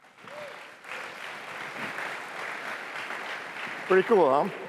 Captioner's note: applause